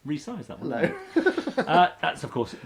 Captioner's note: laughs